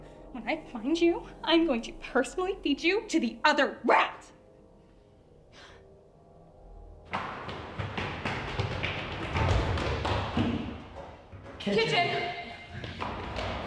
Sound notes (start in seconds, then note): 9.7 distant crash of pots and pans